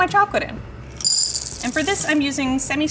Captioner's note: chips clink